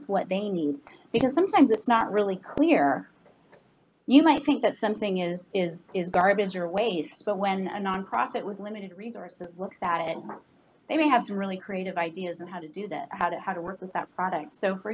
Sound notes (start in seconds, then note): 5.8 stutters